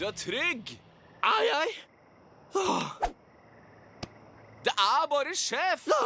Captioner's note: sighs